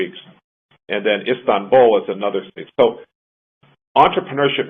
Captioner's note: audio jumps